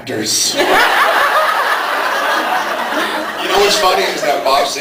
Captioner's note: laughs